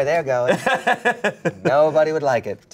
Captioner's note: laughs